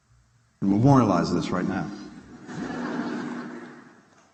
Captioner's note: laughter